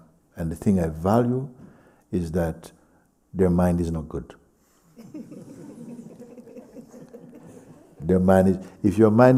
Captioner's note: laughter